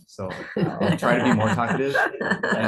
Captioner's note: laughter